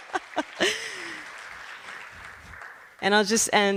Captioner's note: laughter